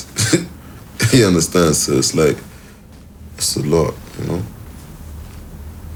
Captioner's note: laughs